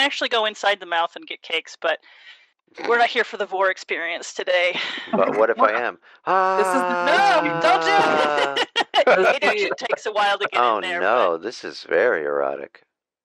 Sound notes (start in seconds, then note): 6.2 gently screams; 6.3 all laugh